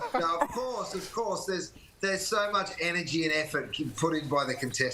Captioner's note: laughter